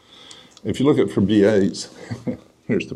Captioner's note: chuckles